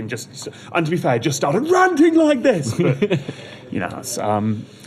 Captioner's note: shouts